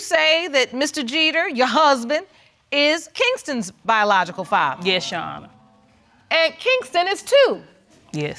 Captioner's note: none